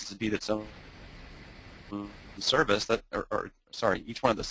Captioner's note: static